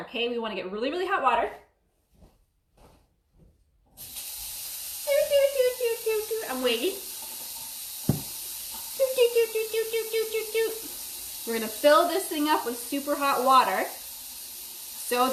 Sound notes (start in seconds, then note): 4.0 humming; 4.0 water gushing; 8.8 humming